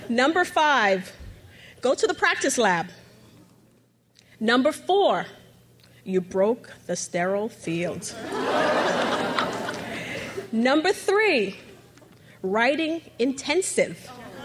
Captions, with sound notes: Number five, go to the practice lab. Number four, you broke the steril field. (crowd laughs) Number three, writing intensive.